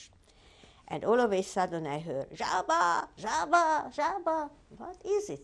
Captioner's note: non-english